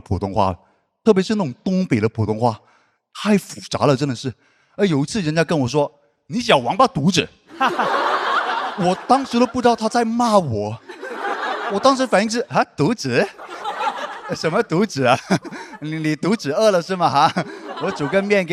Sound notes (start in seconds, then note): 7.5 in a northern dialect